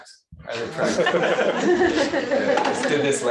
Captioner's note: laughter